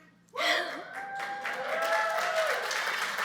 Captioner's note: clapping